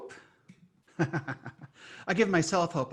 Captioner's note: laughs